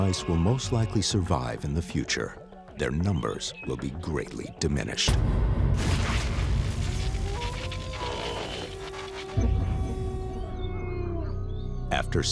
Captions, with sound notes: Although rats and mice will most likely survive in the future, their numbers will be greatly diminished. [thuds] [buzzing and crackling] [howling]